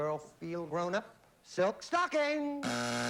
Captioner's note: buzzer